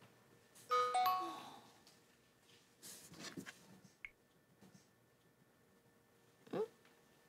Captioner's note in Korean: 휴대전화 문자 수신음